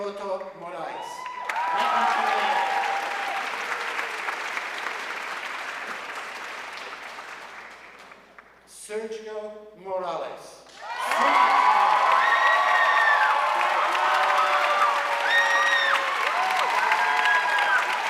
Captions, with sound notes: Rodrigo Hiroto Morais, magna cum laude. (audience cheering and applauding) Sergio Morales, summa cum laude. (audience cheering and applauding)